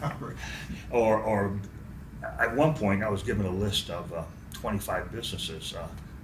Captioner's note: laughs